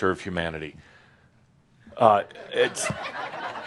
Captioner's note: some chuckles